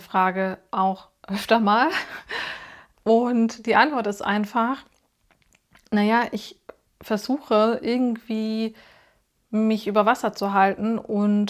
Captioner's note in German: japst